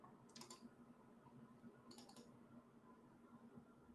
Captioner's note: keyboard clacking